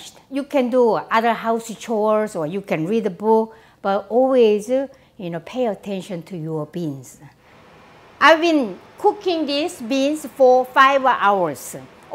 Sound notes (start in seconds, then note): none